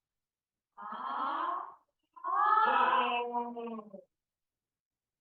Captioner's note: people vocalizing